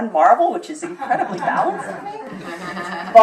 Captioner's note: laughter